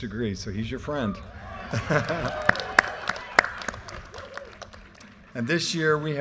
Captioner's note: audience cheers, applause, and laughter